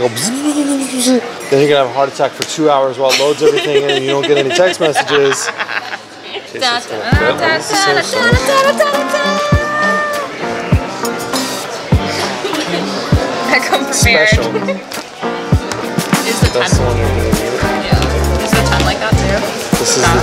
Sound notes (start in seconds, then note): 0.8 electronic sounds; 5.2 laughs; 8.2 fly sings